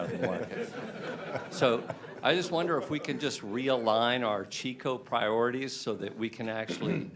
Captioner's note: laughter